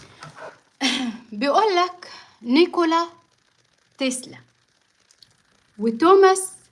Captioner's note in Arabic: تنحنُح